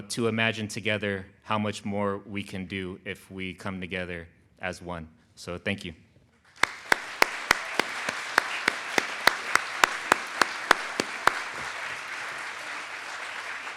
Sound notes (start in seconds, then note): 6.5 claps hands; 6.6 audience applauds